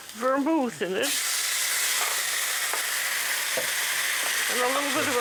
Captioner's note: sizzling